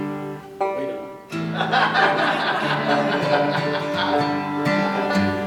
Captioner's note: laughter